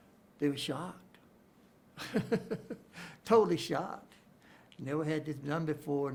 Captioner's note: chuckles